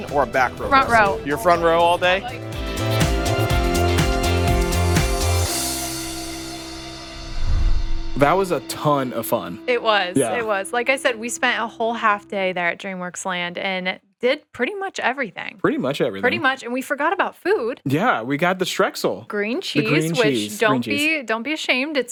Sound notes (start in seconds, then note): 2.9 upbeat music continues; 6.9 screen whooshing